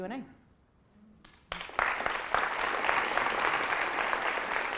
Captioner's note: applauding